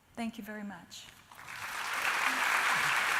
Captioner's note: applause